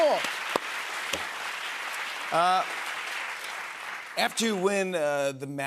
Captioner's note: cheers and applause